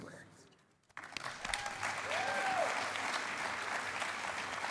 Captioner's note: cheering and applause